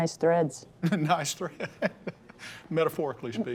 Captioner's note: laughing